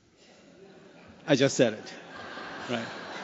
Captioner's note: laughter